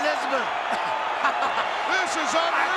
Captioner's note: Billy laughing